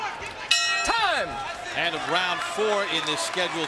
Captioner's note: bell dings